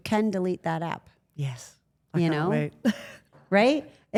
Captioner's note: laughs